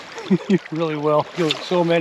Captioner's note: chuckling